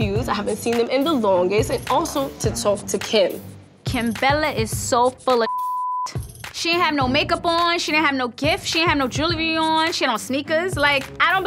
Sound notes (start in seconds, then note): 5.4 beep